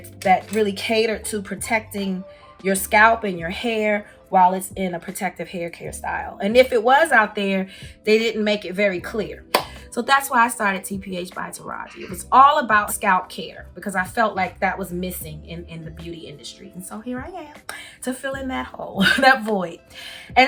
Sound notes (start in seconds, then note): 9.5 claps